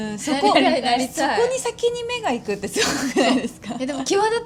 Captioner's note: laughs